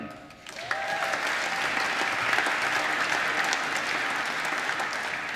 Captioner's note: applause